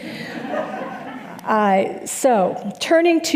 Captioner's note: audience laughing